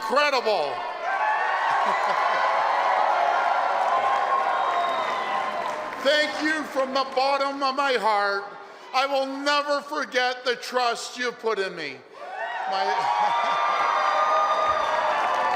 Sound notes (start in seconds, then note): 5.5 applause and cheering